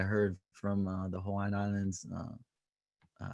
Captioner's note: speaking native language